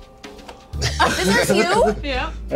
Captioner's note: laughs